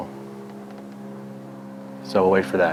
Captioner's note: plane engine whirring